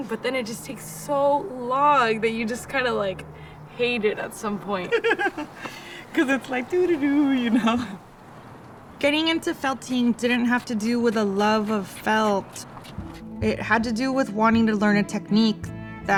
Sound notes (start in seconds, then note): 4.7 laugh